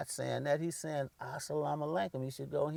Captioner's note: foreign language